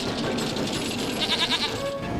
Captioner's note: bleats